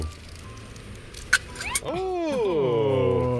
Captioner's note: effect squeaks; metal taps